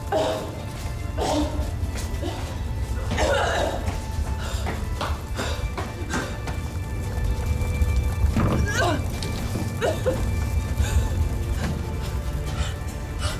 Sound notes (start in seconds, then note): 0.2 Ava coughing; 4.5 Ava panting; 4.5 footsteps pattering; 8.6 Ava coughing; 8.6 Ava whimpering; 13.2 Ava panting